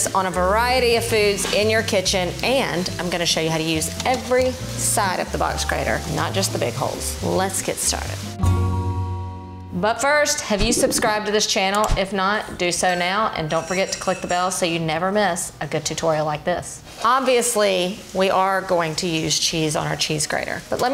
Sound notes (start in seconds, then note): 8.3 tonal music; 13.6 bell dinging